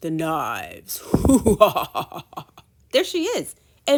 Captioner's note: menacing laugh